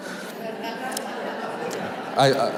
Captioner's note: audience laughing